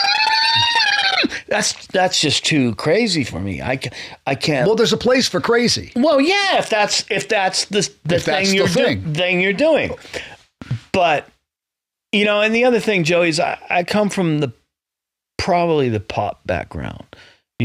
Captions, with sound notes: (imitates solo) That's just too crazy for me. I can't- Well, there's a place for crazy. Well, yeah, if that's the thing you're doing. But, and the other thing, Joey, I come from probably the pop background,